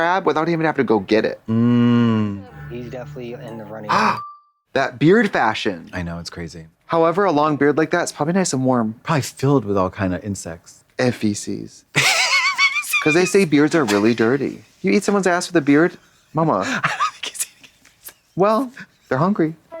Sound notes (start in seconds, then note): 4.2 Trixie gasps; 13.6 fizzles